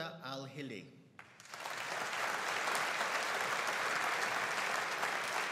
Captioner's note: audience applauding